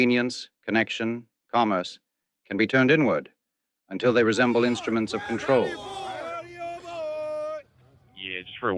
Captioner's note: noisy Crowd